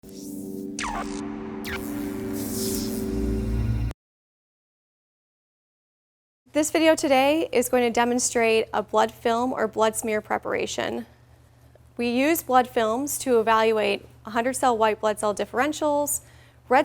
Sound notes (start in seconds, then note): 0.0 electricity crackling